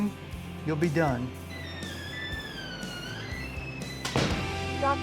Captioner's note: door squeaks shut